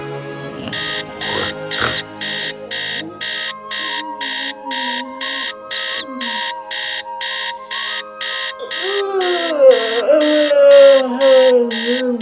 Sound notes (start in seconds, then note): 0.6 alarm clock sounding